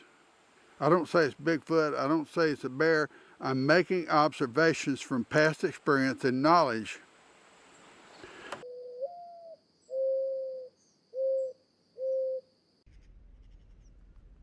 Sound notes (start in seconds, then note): 8.7 owl hooting